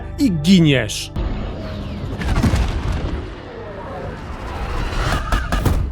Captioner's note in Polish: dźwięki z gry